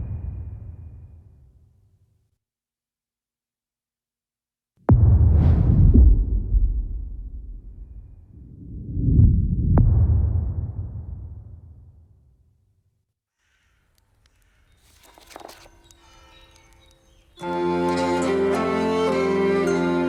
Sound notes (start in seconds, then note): 0.2 dramatic sound; 6.8 dramatic sound; 16.5 pages rustling